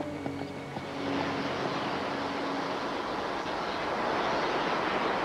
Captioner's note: torch hissing